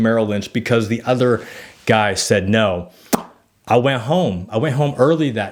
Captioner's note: lips smack